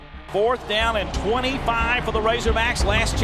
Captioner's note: voiceover